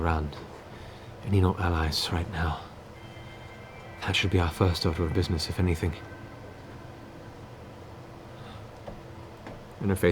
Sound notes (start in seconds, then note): none